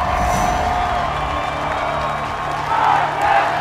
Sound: cheering

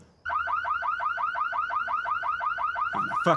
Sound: car alarm blaring

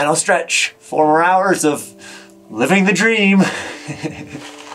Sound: laughs

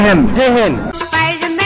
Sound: non-english speech

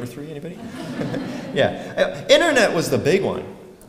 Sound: laugh

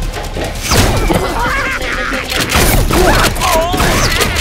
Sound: clowns laughing

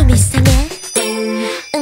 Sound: ding!

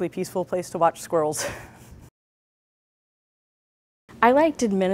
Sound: chuckles

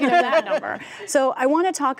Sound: laughter

